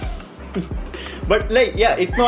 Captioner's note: laughs